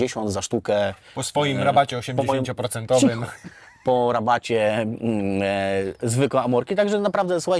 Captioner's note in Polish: śmiech